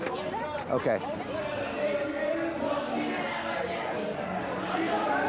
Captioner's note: chatter